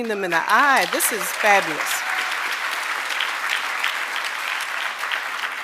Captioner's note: audience applauding